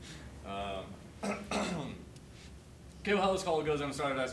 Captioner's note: clears throat